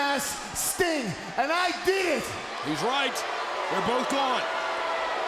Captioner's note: crowd cheering